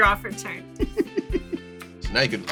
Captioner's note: laughs